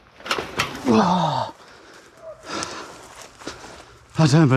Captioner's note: grunting